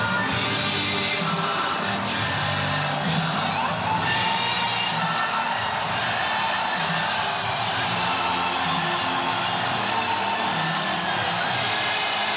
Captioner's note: cheers and applause